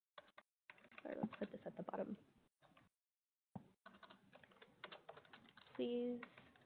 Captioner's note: computer keys clicking